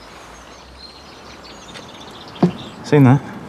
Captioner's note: birds chirping